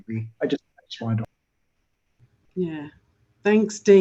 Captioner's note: audio warbles